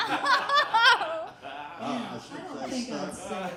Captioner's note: all laughing